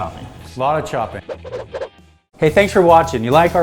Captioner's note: karate chop air whooshing